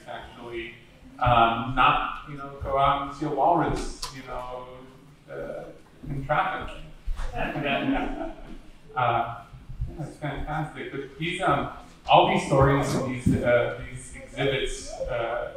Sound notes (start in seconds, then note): 7.4 audience laughing